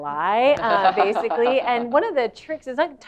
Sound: laugh

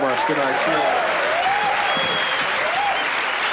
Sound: cheering

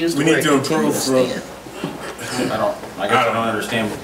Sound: overlapping chattering

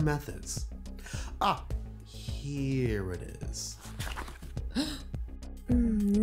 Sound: paper flip; gasp

